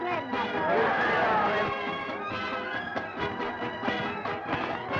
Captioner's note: crowd jeering; upbeat music